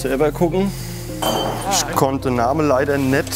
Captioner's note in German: Klirren